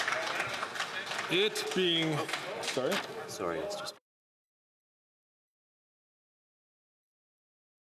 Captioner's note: some Applause